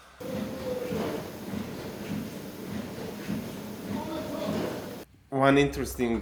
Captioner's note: machine humming; people talking